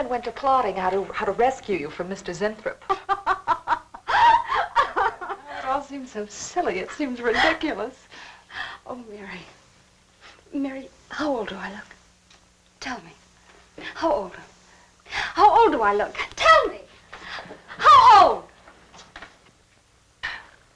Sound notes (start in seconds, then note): 2.8 laughing